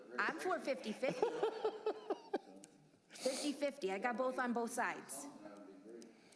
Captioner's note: laughter